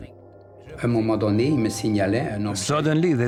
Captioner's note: non-english speech